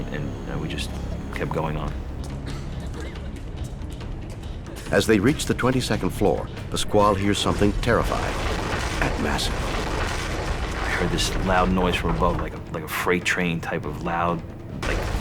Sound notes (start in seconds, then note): 10.1 building rumbles